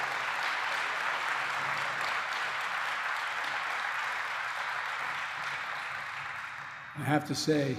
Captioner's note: applause